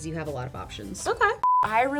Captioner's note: screen beeps